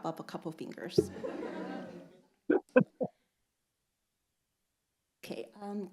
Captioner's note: audience laughing